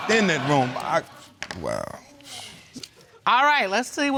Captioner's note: dismissive sigh